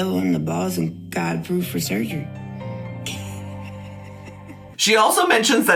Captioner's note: laughs